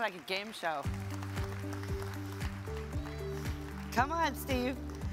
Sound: audience applauds; upbeat music

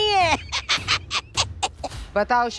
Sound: giggles

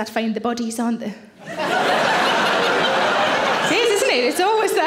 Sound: audience laughing

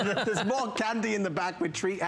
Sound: laughter

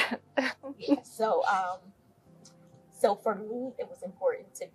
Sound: laugh

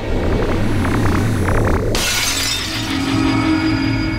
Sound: shattering

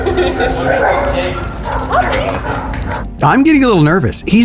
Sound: dogs barking

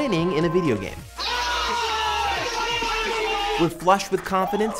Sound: shouting

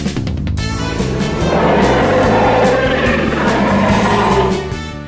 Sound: Kyuubi's roar

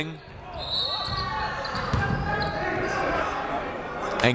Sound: whistle

